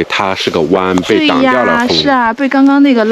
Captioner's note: the wind